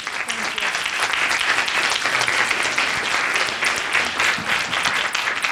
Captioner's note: audience applauding